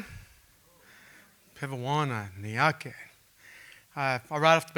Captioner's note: speaking Native language